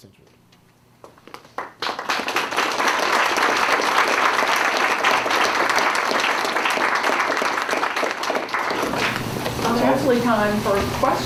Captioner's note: applause